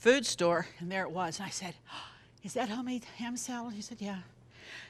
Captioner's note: gasp